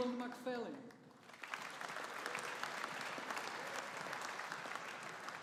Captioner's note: audience applauding